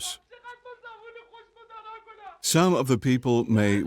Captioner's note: speaking foreign language